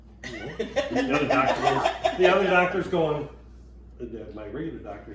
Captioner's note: all laughing